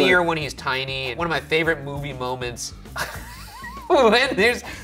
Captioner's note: laughs